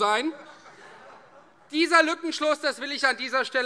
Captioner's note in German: Heiterkeit Freie Demokraten